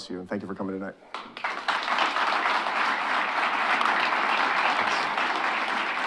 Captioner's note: audience applauding